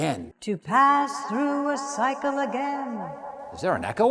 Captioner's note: echo: “To pass through a cycle again”